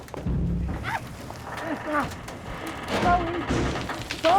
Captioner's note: banging, ducts groaning; grunts